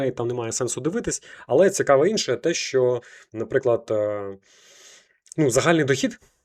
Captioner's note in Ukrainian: сопіння